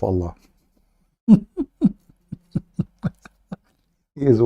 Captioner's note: Ketawa